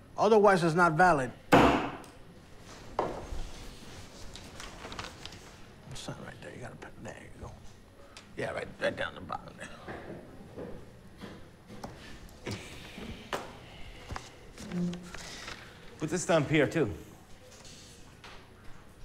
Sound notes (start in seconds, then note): 1.6 banging